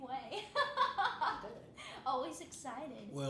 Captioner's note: laughing